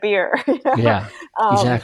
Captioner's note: laughs